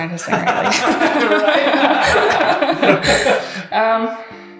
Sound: everyone laughs

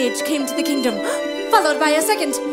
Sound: gasp

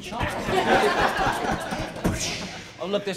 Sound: laughter

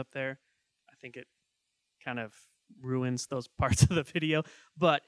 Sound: laughing

